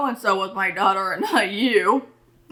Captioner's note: laughs